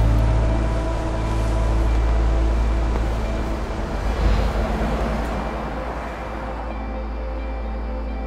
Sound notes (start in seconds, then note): 3.3 car driving